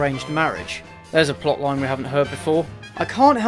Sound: sarcastically

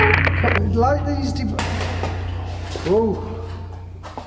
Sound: object dropping

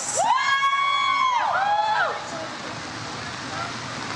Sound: audience cheers

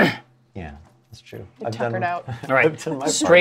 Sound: laughs

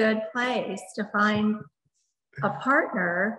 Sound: laughs

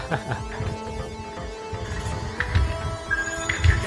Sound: laughs

